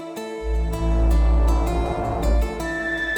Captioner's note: errie sound